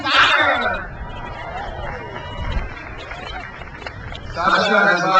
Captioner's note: crowd cheers